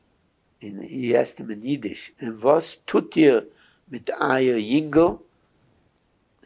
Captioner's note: yiddish